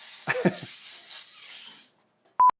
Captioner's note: laughing